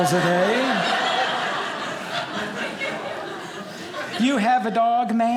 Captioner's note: audience laughing